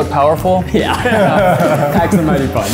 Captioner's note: both laughs